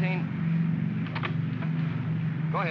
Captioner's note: radio set clatters